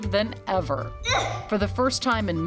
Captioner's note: grunts